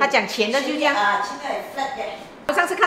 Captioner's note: Cantonese